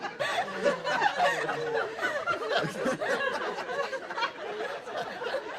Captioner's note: gasps and jeers and laughing